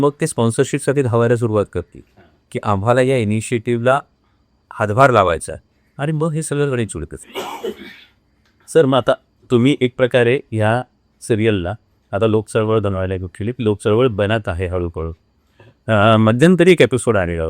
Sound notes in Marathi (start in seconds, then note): 7.3 घसा साफ करणे